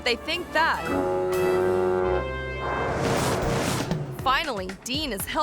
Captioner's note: foghorn blaring